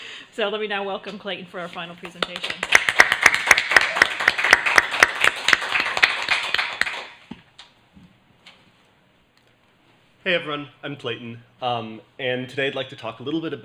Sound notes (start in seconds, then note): 2.2 applause